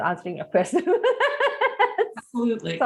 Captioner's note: laughs